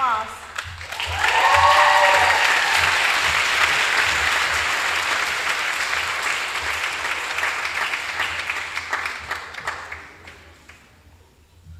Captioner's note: applause